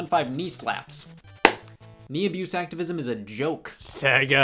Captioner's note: claps